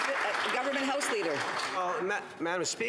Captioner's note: some Applause